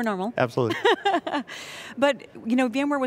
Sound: laughing

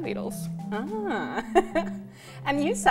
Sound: laughs

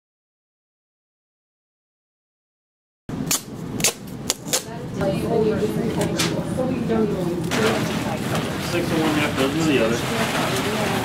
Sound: sounds of duct tape and suit crinkling

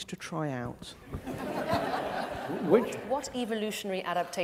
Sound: audience laughs

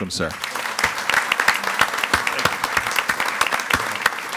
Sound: audience applauding

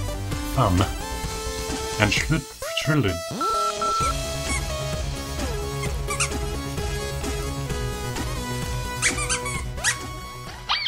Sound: toy squeaks

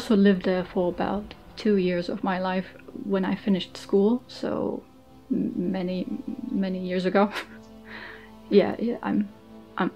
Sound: laughs

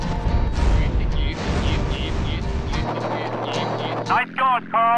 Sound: CJ imitating the sound of a plane

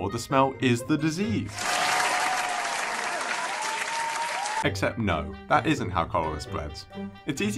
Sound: clapping

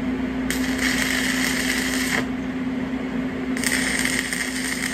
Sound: crackling

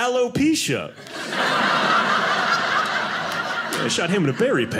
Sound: audience laughing

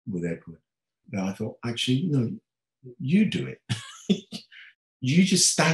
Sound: laughing

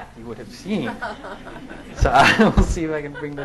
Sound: laughing

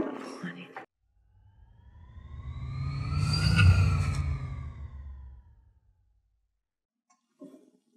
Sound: swoosh

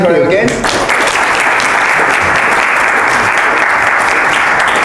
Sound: applause

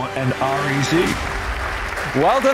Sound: audience applauding

